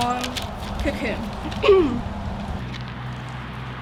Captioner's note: New Poet clears her throat